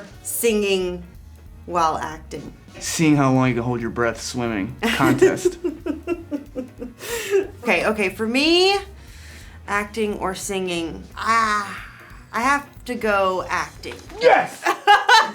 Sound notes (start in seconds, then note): 6.7 Elle laughing; 14.2 group laughing